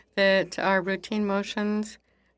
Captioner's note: speaking in French